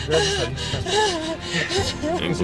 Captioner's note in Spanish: Sollozos